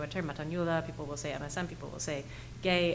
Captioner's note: speaking foreign language